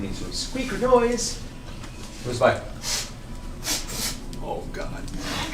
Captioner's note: sniffs